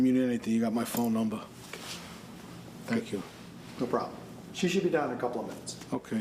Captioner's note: none